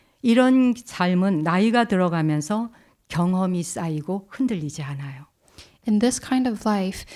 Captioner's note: speaking in Korean